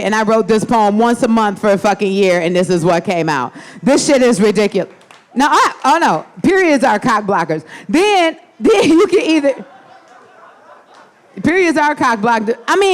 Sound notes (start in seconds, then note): 4.9 audience applauding; 8.7 audience laughing